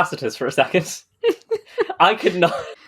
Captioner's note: laughing